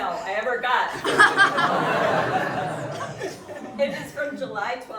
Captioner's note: audience laughing